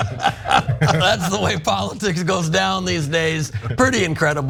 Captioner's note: laugh